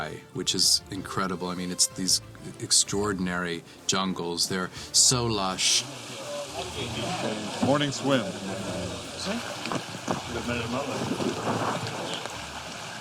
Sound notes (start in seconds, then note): 5.8 indistinct chatter